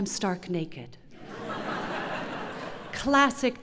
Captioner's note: laughter